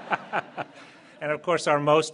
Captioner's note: laughter